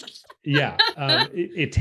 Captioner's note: laughs